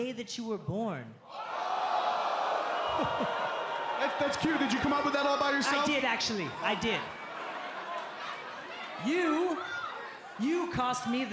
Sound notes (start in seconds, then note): 3.9 crowd chatter